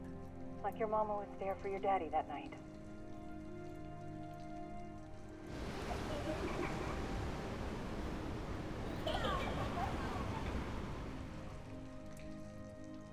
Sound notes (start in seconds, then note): 5.4 giggling; 5.4 sobbing